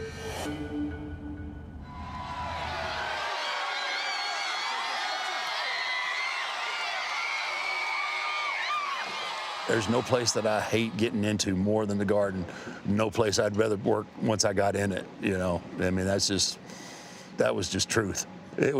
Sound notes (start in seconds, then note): 1.8 crowd cheers and whistles